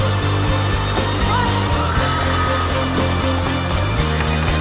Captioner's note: crowd screaming